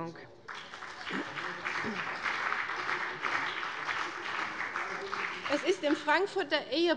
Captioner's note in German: Beifall bei dem BÜNDNIS 90/DIE GRÜNEN und der CDU